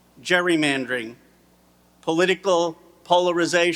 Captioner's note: none